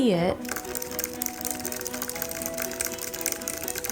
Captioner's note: keyboard clicks